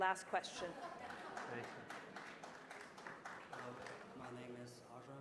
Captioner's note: applause